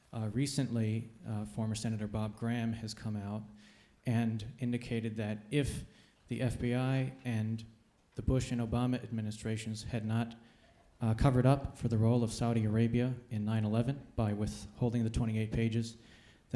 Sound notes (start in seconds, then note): none